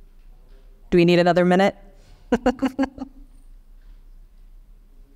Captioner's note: laughing